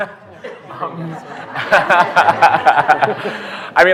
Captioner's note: laughter